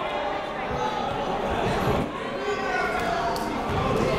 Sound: shouting

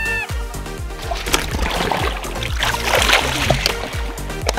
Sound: yelling; water splashing

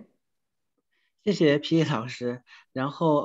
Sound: Mandarin

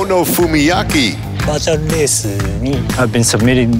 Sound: speaks in foreign language

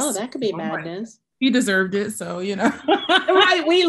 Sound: laughing

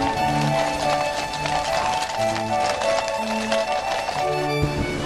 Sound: horses' hooves

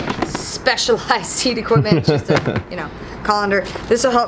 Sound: laughs

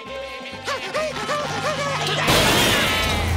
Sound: panting

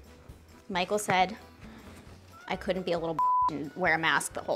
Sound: beep

